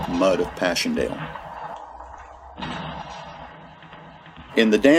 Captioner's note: sound of gunfire